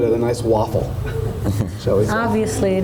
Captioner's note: laughter from audience